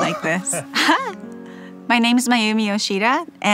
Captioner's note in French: rires